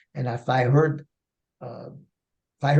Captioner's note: none